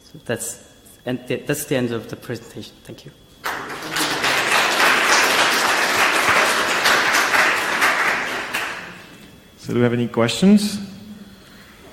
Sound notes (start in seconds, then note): 3.4 audience applauds